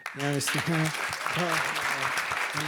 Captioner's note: attendees applaud